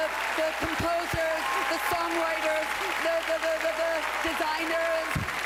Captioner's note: cheering and applause